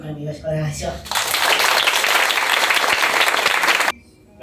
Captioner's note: applause